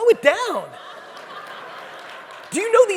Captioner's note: audience laughing